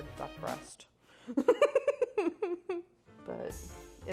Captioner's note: laughing